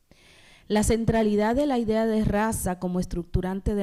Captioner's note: speaking spanish